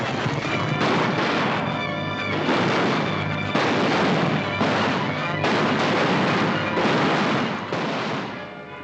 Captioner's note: gunshots